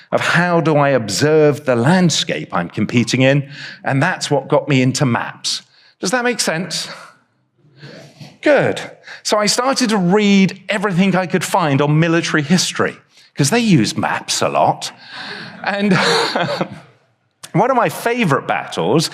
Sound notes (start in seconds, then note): 15.3 chuckles; 15.4 audience laughs